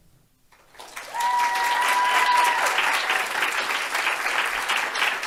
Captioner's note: audience cheers and applauds